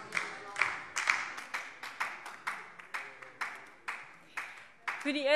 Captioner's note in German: Beifall DIE LINKE